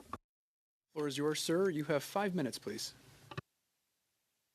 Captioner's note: speaking French